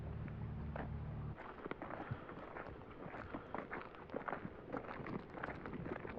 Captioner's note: footsteps crunch